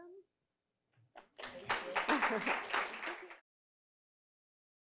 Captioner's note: audience applauding